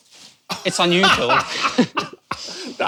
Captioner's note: laughs